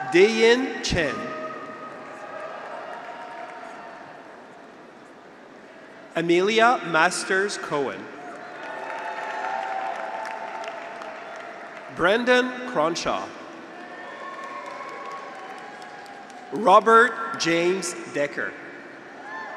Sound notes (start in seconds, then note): 0.0 graduates cheer; 2.4 graduates cheer; 8.2 graduates cheer; 8.3 audience applauds; 13.6 graduates cheer